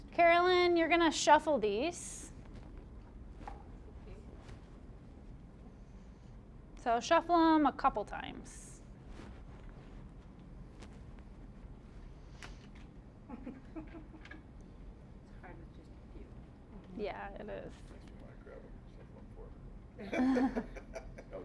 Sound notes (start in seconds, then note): 13.3 audience chuckling